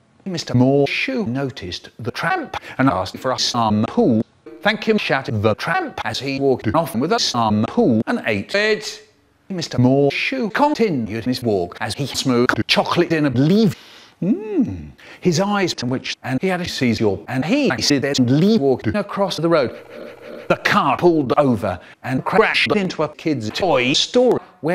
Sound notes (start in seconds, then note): 14.2 Chocolate sniffing noises